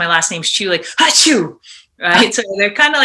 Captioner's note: sneezes